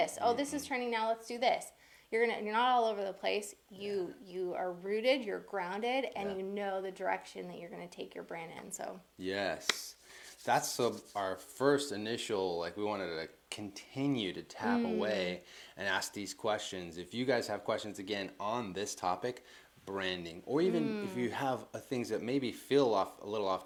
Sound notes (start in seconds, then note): 9.6 claps